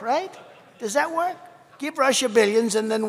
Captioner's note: laughter